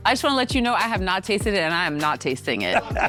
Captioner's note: laughing